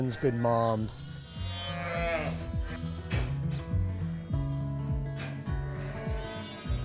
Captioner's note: lambs baaing; gentle music